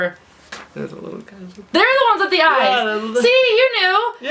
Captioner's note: whispers